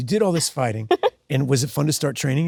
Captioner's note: Sydney laughs